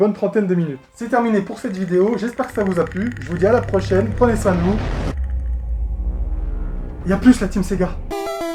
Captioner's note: noise of predator